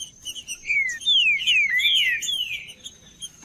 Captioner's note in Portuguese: trinca ferro cantando